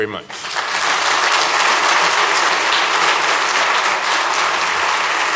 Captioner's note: applause